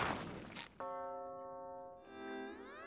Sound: bell chiming

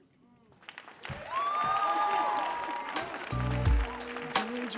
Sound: audience cheering

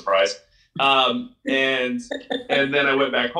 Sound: laughs

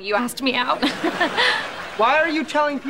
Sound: laughing

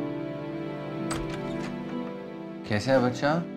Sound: door opens

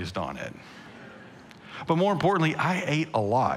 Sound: congregation laughing

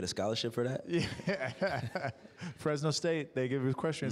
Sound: laughter

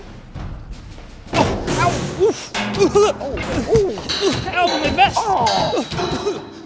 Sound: multiple crashes and thuds; Tim groaning

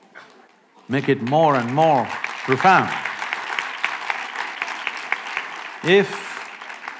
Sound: applause

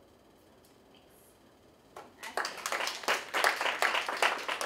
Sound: applause

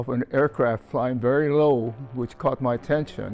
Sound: plane engine revving

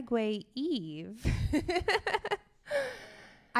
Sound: laughs

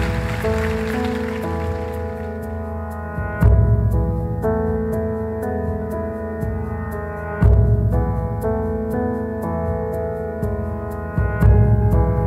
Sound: applause

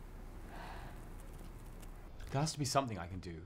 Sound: sighs

